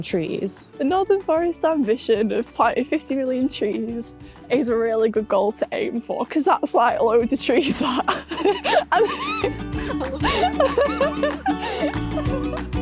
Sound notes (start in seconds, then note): 7.8 laughs